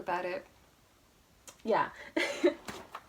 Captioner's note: more laughter